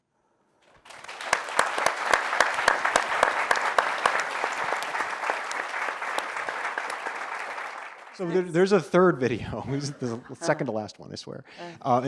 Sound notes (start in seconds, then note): 0.8 audience applauds